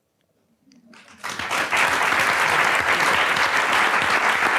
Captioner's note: audience applauds